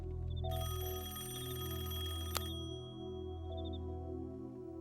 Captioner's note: rings